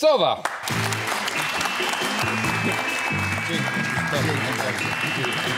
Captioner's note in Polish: Aplauz